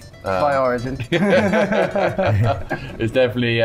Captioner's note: laughing